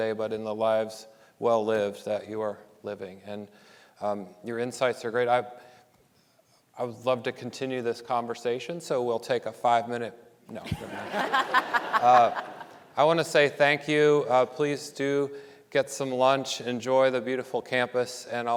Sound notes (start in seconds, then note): 10.7 audience laughing